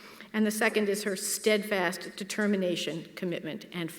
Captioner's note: none